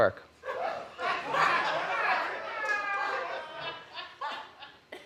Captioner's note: audience laughs